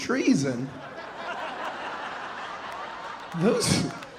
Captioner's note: audience laughing